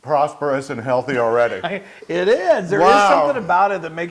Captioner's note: laugh